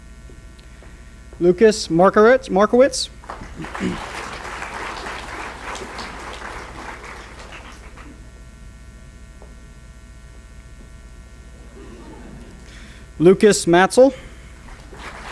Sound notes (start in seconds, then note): 3.2 applause; 11.5 audience laughs; 14.2 applause